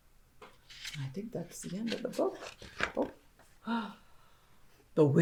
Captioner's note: gasp